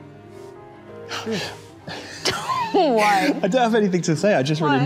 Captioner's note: both laughing